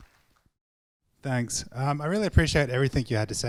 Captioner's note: voiceover